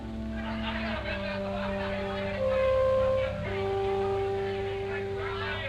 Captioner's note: chatter